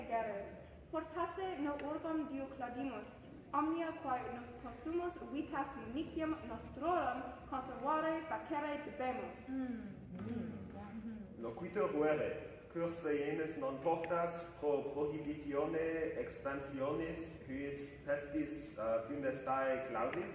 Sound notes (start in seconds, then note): 9.4 appreciative murmurs